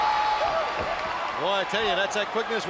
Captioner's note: crowd cheering